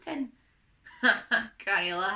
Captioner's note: laughs